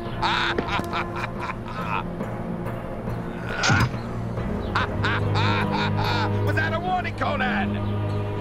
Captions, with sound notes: (laughing) (thwack) Was that a warning, Conan?